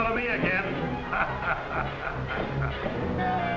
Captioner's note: laughing